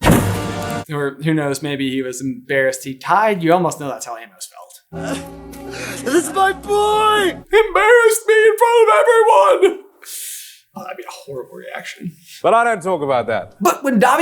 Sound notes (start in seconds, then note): 4.9 sobs